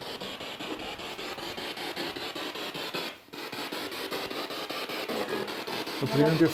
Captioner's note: noise of the spiritbox in the background